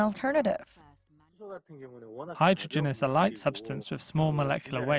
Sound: Korean

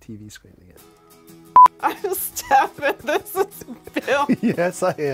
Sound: lauging

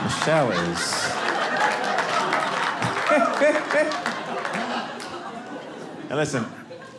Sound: audience laughing

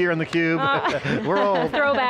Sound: laughs

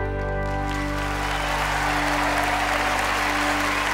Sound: cheers and applause

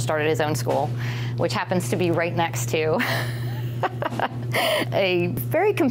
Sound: laughing

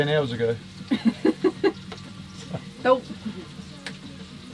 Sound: chuckles

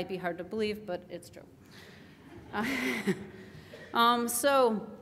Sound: laughs

